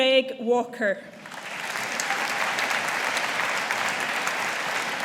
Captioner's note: audience applauding